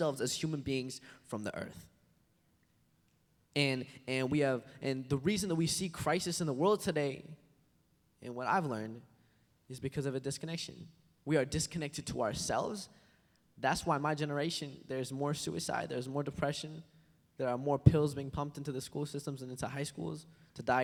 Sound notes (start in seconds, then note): none